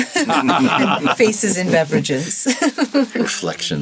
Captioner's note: all laughing; laughs